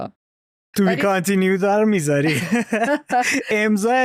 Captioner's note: laughter